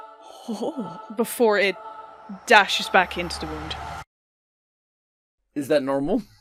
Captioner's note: rising whoosh, then silence